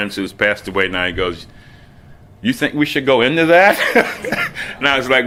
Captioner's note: laughs